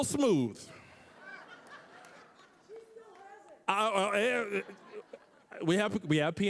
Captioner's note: audience laughing